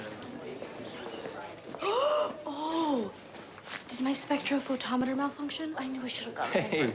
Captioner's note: gasps